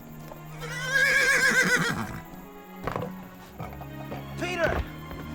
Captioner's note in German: Pferd wiehert